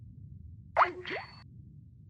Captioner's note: disconnect sound